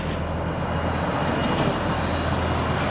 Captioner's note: plane passing